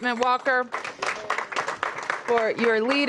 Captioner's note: applause